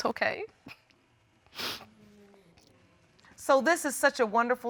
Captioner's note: sobbing